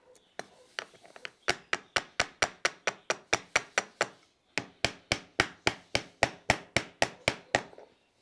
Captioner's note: hammer striking nails